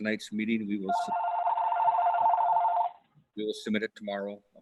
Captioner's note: phone ringing